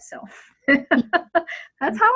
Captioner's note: laughs